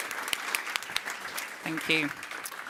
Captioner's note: audience claps